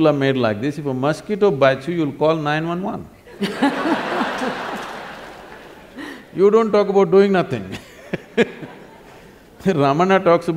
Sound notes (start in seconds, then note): 3.3 laughter; 7.8 laughs